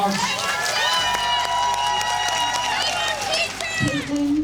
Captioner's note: audience cheers and applauds